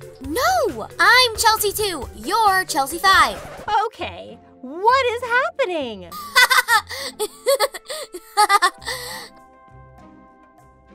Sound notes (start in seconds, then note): 3.1 record scratches; 6.1 Chelsea laughing